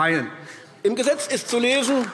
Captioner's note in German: Beifall AfD